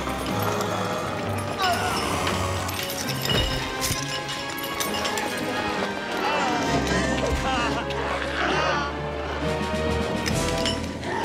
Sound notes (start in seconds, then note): 2.6 Kreel yelling; 2.6 chains clanking